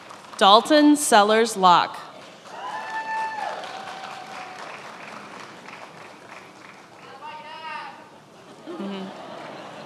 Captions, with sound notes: Dalton Sellars Lauck. (attendees applauding and cheering)